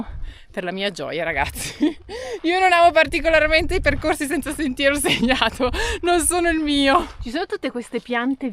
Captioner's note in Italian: risate